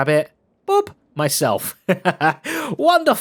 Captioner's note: laughs